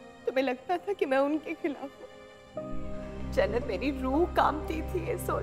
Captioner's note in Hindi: none